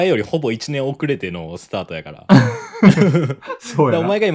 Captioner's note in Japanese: 笑い